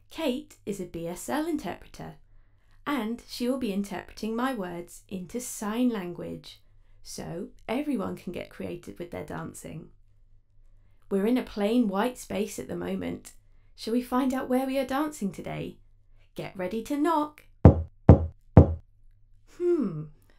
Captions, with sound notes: Kate is a BSL interpreter and she will be interpreting my words into sign language, so everyone can get creative with their dancing. We're in a plain white space at the moment, should we find out where we are dancing today? Get ready to knock... [KNOCKING] Hmmm...